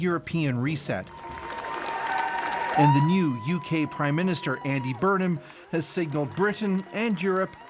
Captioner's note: applause